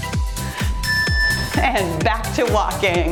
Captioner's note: timer beeps